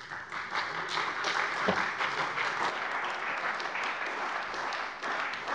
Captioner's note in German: Beifall bei der CDU und dem BÜNDNIS 90/DIE GRÜNEN